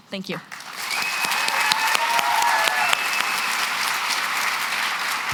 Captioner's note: cheering and applause